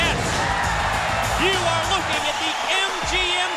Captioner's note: crowd cheering